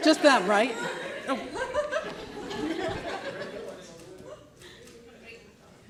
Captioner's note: audience laughing